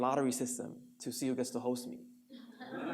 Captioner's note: audience laughs